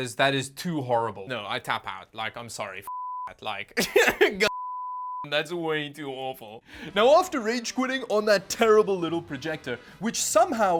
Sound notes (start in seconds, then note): 3.8 laughs